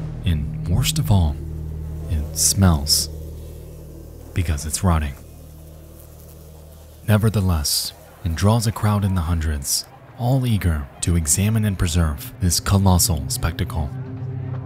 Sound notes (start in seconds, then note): 5.8 flies buzzing